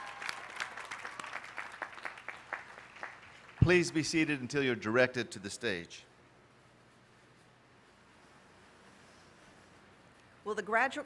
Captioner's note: applause